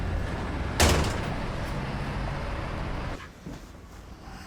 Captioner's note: door bangs